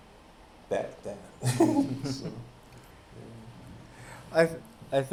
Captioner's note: chuckles